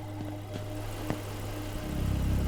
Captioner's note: car engine idles; suspenseful music